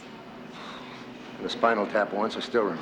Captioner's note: exhales